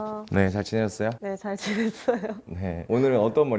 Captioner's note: he laughs a lot